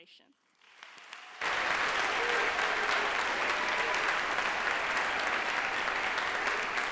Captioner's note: audience applauds; audience cheers